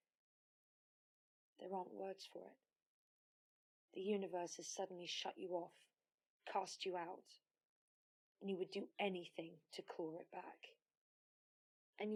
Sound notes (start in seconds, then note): none